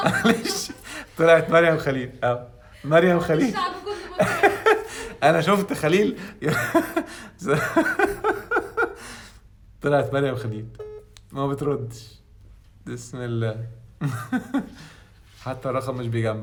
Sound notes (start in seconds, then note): 7.4 laughs!